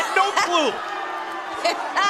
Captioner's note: cheers & boos